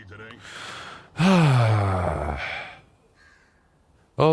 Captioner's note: sigh